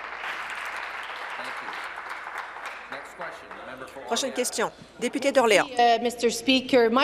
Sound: applause

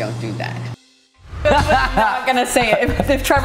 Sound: both laugh

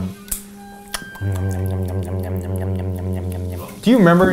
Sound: smacks lips

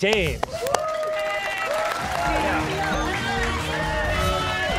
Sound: cheers and applause

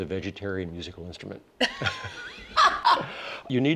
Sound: laughter

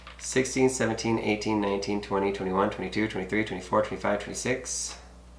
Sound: none

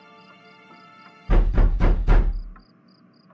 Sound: knock knock

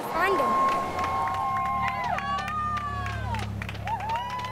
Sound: cheering

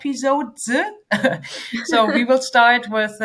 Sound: both chuckle

